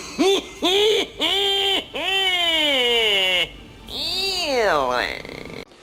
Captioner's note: cynical laughing